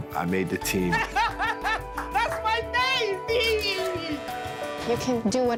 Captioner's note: joyous laughter